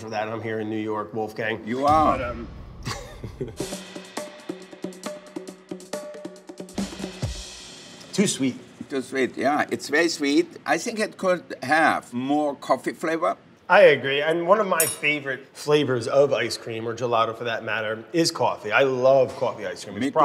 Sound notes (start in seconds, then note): 2.8 laughs; 3.0 upbeat music